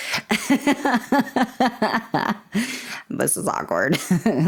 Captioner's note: laughter